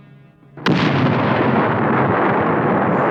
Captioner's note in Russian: раскаты грома